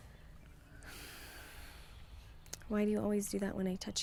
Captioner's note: Bryan sighs